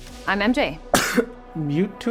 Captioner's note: coughs